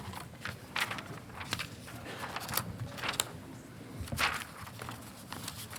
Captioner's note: papers shuffling